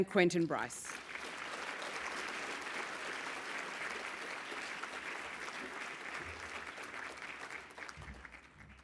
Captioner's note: applause